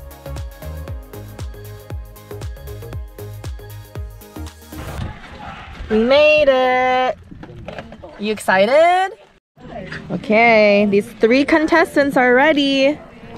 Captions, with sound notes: (dog panting) - We made it. You excited? - Okay. These three contestants are ready.